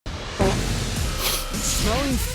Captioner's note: loud fart; nose sniffing